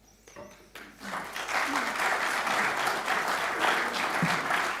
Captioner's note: audience clapping